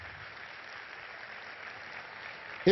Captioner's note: applause